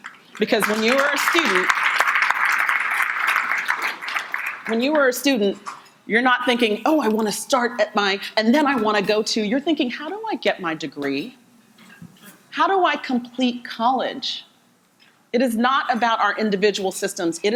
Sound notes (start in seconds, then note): 0.6 audience applauding